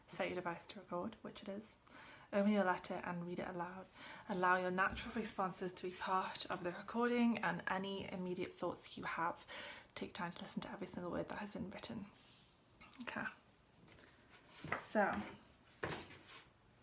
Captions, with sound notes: Set your device to record, which it is. Open your letter and read it aloud. Allow your natural responses to be part of the recording and any immediate thoughts you have. Take time to listen to every single word that has been written. Okay. (card drops) So.